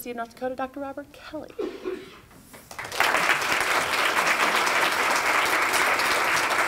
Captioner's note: applause